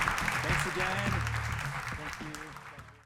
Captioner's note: applause